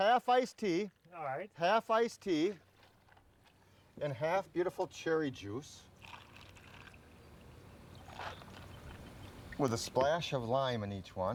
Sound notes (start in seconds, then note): 6.0 juice pours over ice